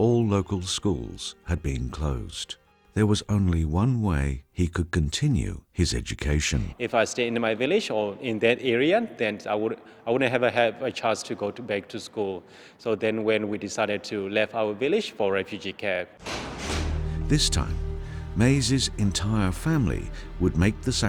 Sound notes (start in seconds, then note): 16.3 train wheels rattling; 17.6 voiceover